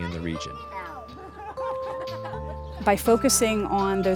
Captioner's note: laughter in background